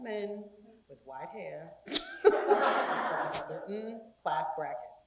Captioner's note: laugh